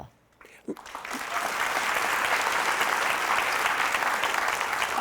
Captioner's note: audience clapping